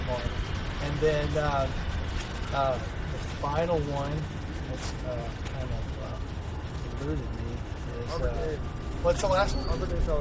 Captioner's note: audience speaking